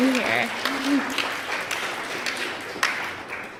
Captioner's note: applause